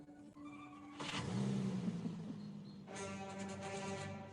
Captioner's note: engine revving; dramatic music